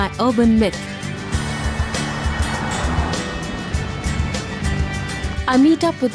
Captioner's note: upbeat music; cars engine revving